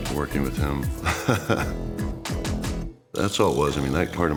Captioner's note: laugh